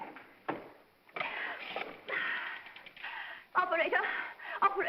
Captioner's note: phone dial clattering & clicking